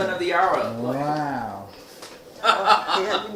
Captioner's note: laughing